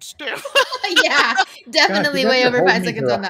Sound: laughs

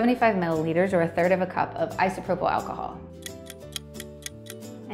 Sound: ticking sound

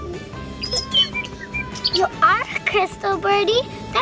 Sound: bird tweeting

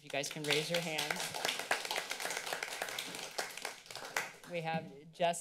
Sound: applause

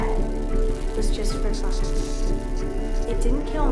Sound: insect laughter

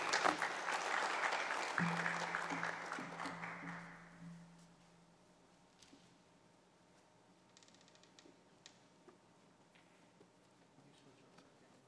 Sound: applause

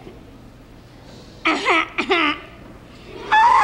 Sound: Charlie cackles

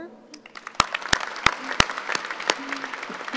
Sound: applauding

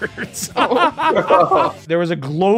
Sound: laughter

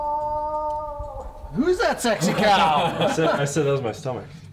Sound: laughter

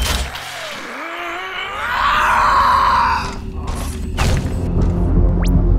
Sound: game audio

